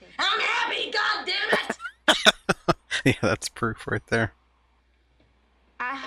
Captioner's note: laughing